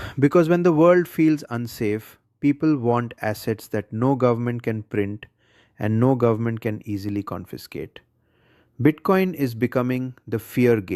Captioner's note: sighs